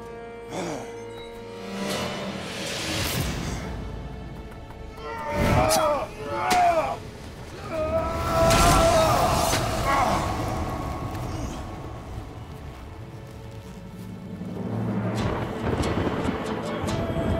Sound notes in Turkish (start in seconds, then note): 0.2 Müzik - Gerilim; 7.3 Dövüşme sesleri; 14.6 Gök gürültüsü efekti